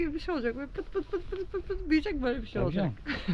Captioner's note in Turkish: kahkaha